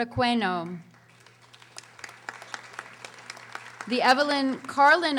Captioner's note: audience applauding